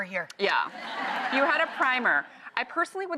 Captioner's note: crowd laughs